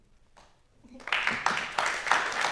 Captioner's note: applause